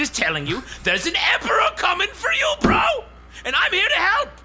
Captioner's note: shouting shrilly; pounds fist on table